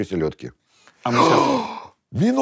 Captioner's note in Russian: восклицает